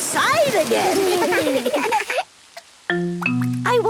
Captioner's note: laughter